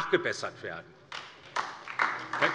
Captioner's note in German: Beifall DIE LINKE